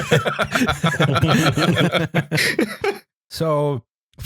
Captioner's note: laughter